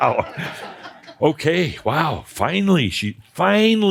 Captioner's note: laughter